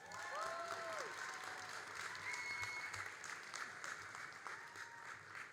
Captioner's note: all applauding and cheering